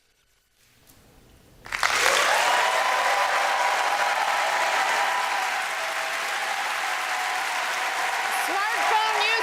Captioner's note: applause